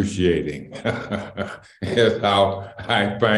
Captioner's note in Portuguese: Risos